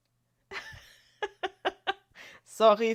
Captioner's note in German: gelächter